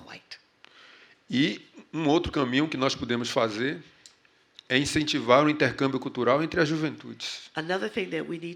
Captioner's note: speaking portuguese